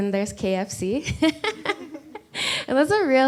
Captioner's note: laughs